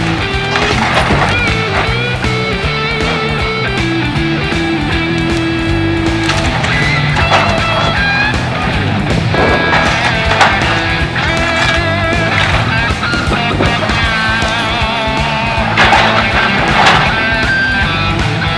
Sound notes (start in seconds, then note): 6.0 wood cracking; 10.5 rock music